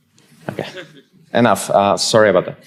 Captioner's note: audience chuckling